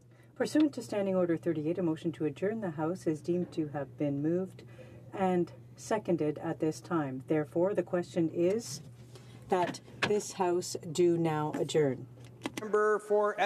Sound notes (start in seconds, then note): 0.8 speaking French